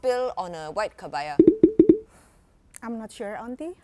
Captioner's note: bubbles popping